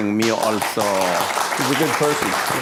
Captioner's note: applause